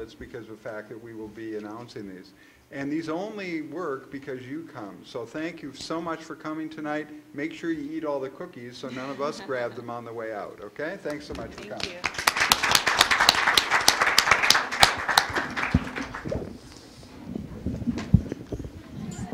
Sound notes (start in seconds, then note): 11.1 applause